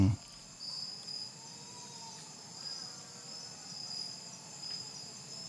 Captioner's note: crickets chirping